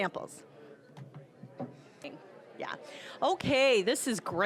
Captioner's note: general chatter